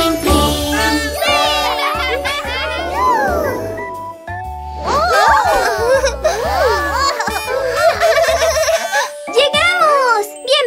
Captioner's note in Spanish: Risas; Sonido de bocina